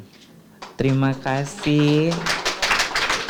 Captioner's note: clapping noises